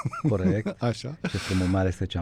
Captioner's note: laughter